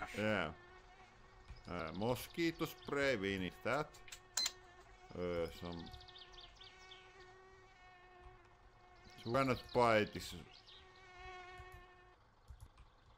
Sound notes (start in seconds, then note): 4.4 register beeps; 8.7 mouse clicking